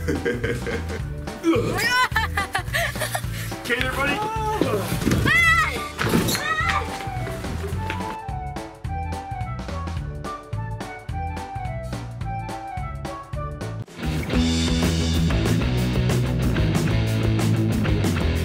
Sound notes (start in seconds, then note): 0.0 chuckles; 1.3 laughs; 1.4 grunts; 4.8 groan; 5.2 screams; 7.7 whimsical music; 14.2 rock music